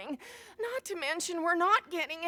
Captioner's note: gasp